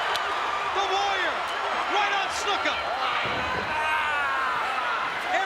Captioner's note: applause